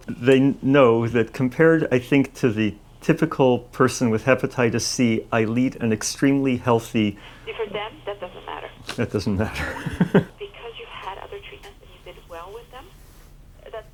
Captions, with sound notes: I hope they know that compared, I think, to the typical person with hepatitis C, I lead an extremely healthy... See, for them, that doesn't matter. That doesn't matter. (Laughs) Because you had other treatments and you did well with them.